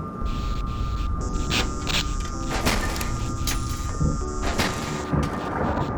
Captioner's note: windows Clacking; thunder Rambling